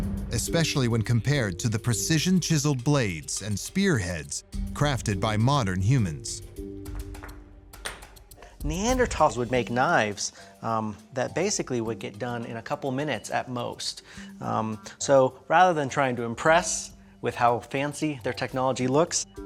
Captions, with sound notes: especially when compared to the precision-chiseled blades and spearheads crafted by modern humans. [rocks banging] Neanderthals would make knives that basically would get done in a couple minutes at most. So rather than trying to impress with how fancy their technology looks,